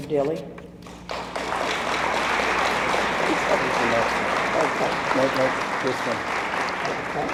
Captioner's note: applause drowns out speech; audience applauds